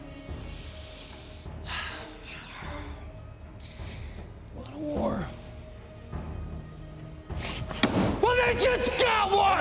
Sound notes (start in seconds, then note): 1.2 sighing; 7.6 smacking